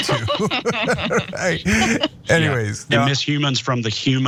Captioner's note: laugh